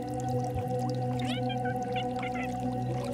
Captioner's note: animal mewing